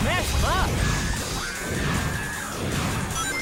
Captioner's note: intense music; attacks whooshing